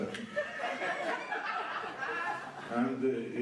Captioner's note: laughter